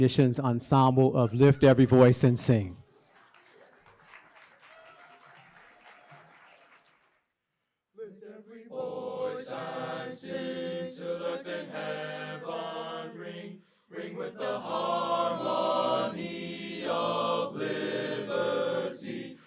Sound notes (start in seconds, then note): 3.0 applause